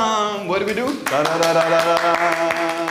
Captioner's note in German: Klatschen